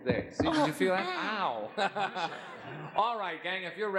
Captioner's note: laughs